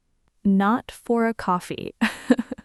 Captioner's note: laughs